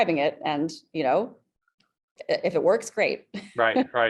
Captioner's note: chuckles